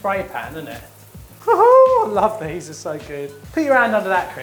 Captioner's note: laughs